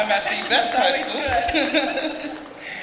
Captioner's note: laughing